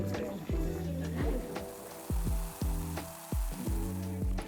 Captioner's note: drink fizzing